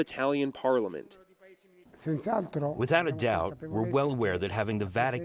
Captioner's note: through translator